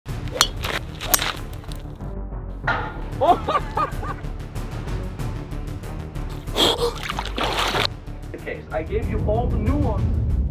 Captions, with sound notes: (golf club swings and hits the ball) (crash sound) (laughs) (intense music) (loud breath) - Okay, I gave you all the nuance.